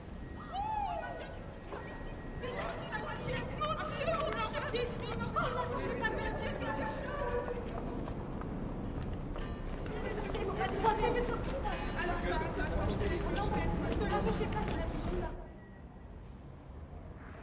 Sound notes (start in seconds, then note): 0.4 people shout, chattering; 4.2 chattering continues; 9.9 chattering